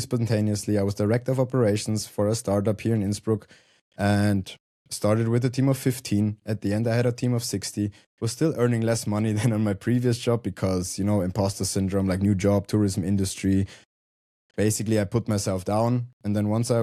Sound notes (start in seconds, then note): 9.5 chuckles